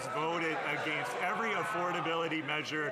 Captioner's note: some Applause